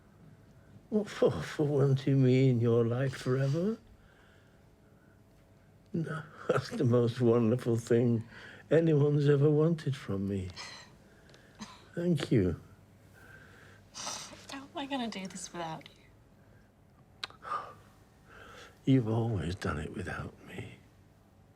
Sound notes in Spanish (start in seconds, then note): 10.1 Robyn se ríe; 13.3 sollozando